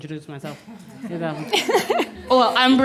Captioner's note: laughter